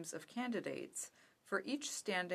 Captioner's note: speaking french